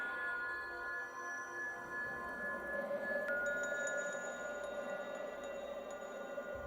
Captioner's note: ethereal music; bell tones